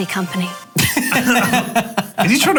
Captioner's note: laughing